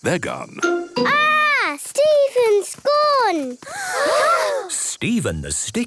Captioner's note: gasps